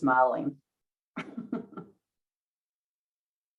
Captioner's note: laughs